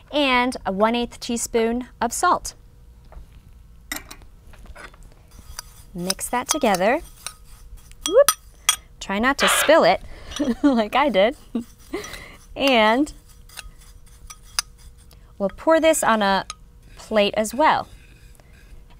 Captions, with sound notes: And a 1/8th teaspoon of salt. Mix that together. Woop! Try not to spill it. (chef laughs) Like I did. And... We'll pour this on a plate as well.